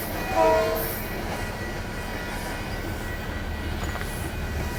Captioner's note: train horn blares